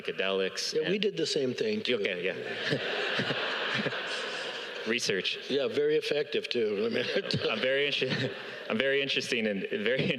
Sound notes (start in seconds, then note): 6.8 all laugh